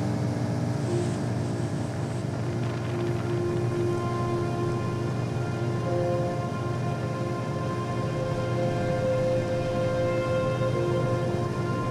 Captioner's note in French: bruit du moteur du bateau